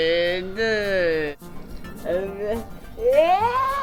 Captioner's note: groaning